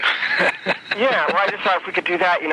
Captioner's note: man laughing